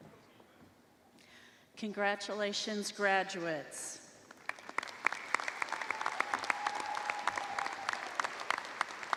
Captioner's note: applause